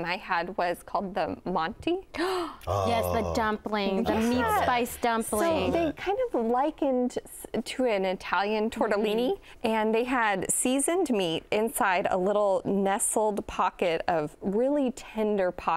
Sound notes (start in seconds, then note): 2.6 gasps